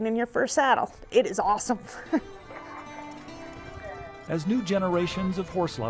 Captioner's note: laughs